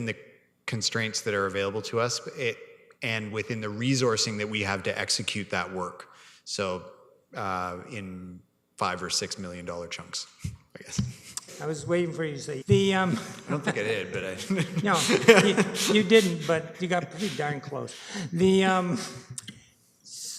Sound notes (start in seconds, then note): 15.7 laughter